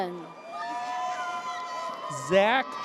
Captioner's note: audience cheers